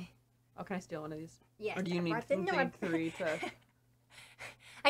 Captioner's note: gasps out a laugh